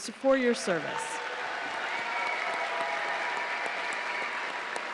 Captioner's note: audience applauding